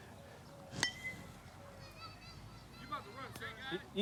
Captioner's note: ball pinging on bat